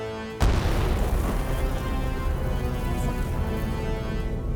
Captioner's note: land mine explodes